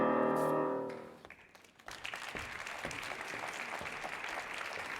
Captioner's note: audience clapping